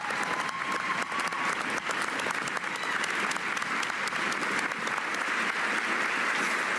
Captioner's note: cheers and applause